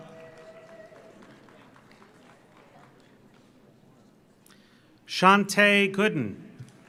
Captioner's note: audience cheers; audience applauds